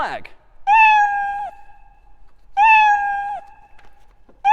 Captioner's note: meowing